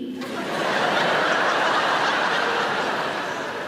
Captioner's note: audience laughter